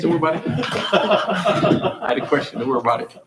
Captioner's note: laughing